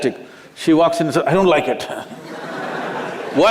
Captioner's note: Laughter